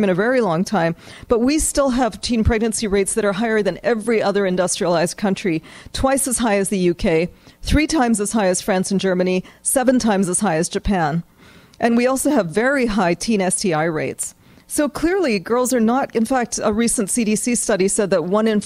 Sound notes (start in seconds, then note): none